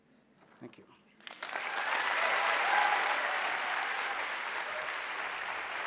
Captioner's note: audience applauding